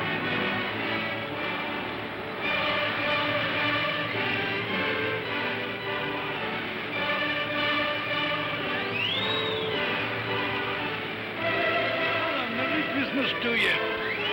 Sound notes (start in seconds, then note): 0.0 music plays; 0.0 sounds of ocean; 11.3 music plays